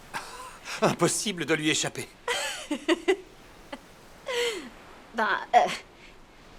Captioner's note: laughing